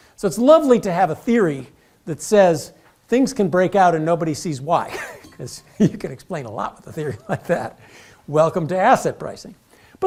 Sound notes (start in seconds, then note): 5.0 laugh